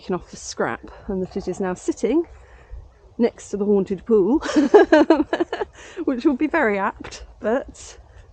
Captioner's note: laughing